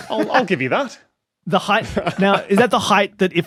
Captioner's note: laughs